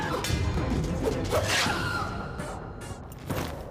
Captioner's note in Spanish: grito agudo